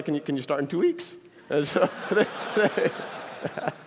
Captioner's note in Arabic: ضحك